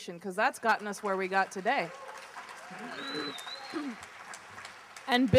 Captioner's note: applause